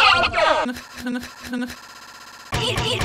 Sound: stuttering scoffing

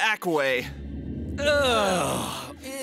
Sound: groaning

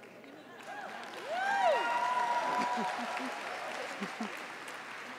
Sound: applause

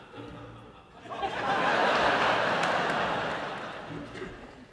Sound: laughter

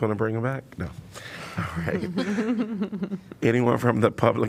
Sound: laughter

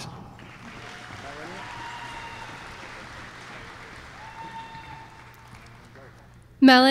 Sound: applause

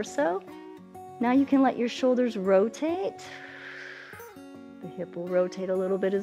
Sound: exhales

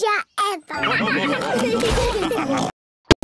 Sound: all laugh

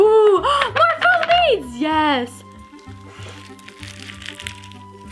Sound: bursting bubbles

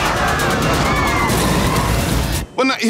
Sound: passengers screaming; explosion booms

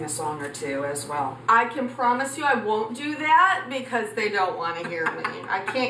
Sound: laughs

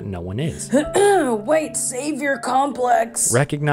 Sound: cough

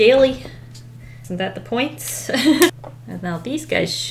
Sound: laughs

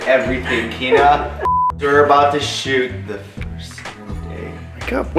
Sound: quietly

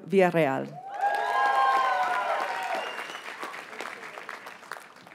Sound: audience cheers and applauds

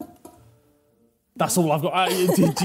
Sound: laughing

